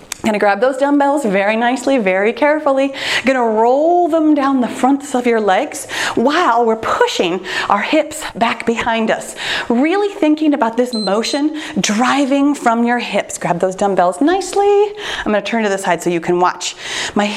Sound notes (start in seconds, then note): 10.9 timer beeps